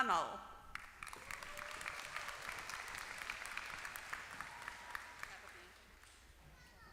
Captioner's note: applause